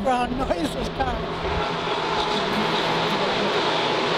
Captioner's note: cars racing